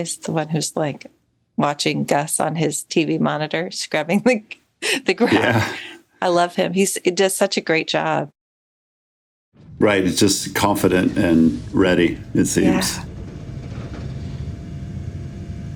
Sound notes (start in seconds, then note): 4.9 laughs